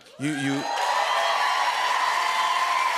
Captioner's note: cheers and applause